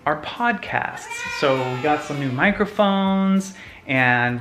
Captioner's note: crowd cheering